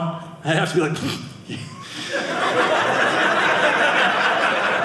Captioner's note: audience laughing